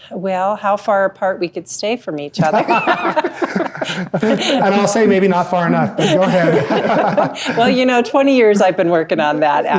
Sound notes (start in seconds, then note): 2.4 everyone laughing